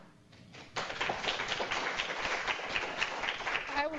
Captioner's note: clapping